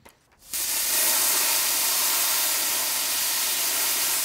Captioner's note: welder sputtering